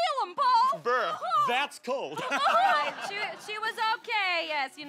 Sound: laughter

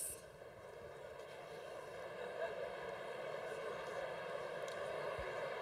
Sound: congregation laughing

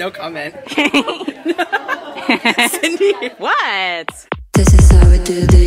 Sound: laughter

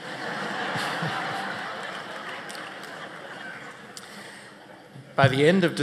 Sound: laughter

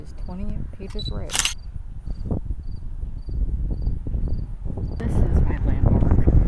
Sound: camera shutter clicking

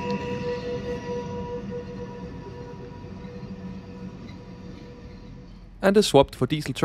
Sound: train Noise

